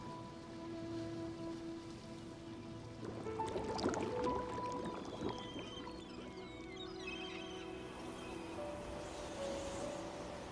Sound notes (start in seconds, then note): 3.0 water gurgling; 6.8 gentle music